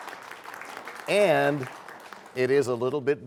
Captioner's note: applause